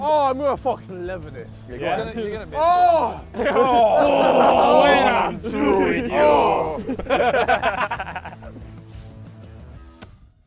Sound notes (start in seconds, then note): 3.1 Sidemen grunting mockingly; 3.4 JJ grunts; 7.5 Sidemen laughing